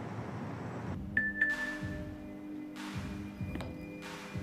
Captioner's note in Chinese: 訊息鈴聲